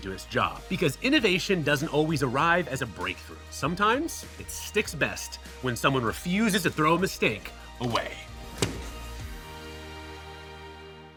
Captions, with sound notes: Because innovation doesn't always arrive as a breakthrough. Sometimes it sticks best when someone refuses to throw a mistake away. [hand taps] [dramatic music]